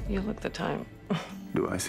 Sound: laughs

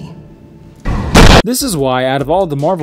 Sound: Batman slams The Joker to a wall loudly

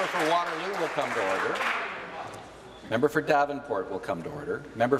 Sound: applause

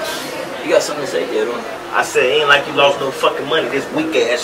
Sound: car starts

